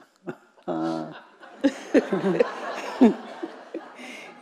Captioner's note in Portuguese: risos da plateia